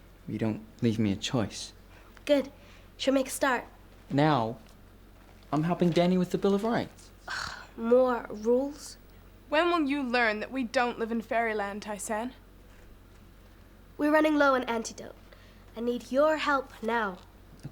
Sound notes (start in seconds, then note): none